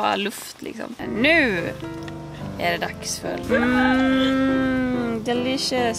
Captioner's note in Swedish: mmmm